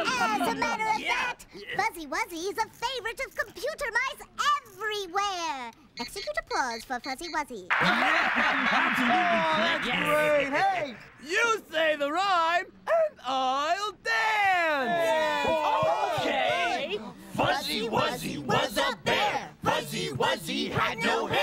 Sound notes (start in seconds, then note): 7.7 canned applause plays; 14.8 all cheer; 16.7 all reciting